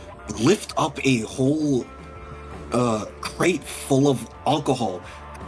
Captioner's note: none